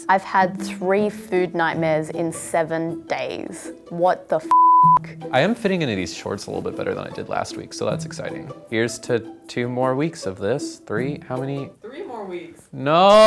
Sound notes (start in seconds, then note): 4.4 beep